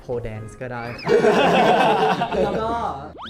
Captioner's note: laughter